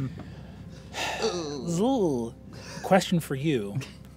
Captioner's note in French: gémissement nerveux; gémit en approbation